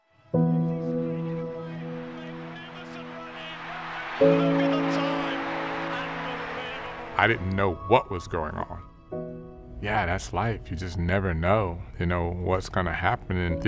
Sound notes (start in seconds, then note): 0.2 mellow piano music; 4.1 distant crowd cheers